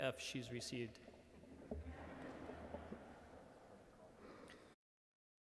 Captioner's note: audience laughs